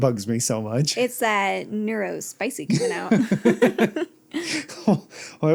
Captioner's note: haha